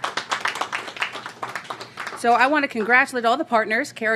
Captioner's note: applause